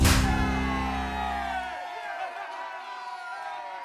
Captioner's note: cheers and laughs